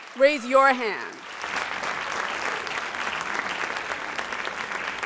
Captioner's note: audience applauds